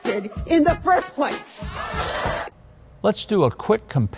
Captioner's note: audience in clip yelling